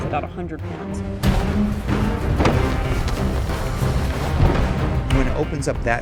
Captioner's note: blast-whoosh